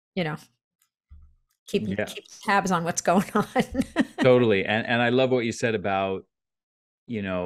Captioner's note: chuckles